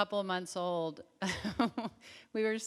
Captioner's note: Tig chuckles